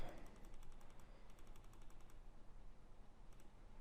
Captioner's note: mouse clicking